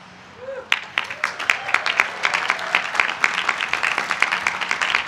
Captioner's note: applause